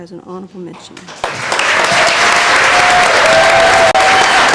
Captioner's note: applause